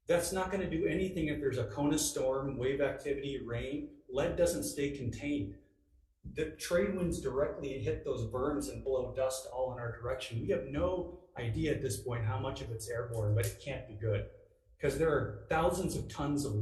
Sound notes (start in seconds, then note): none